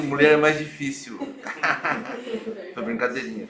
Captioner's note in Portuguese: risos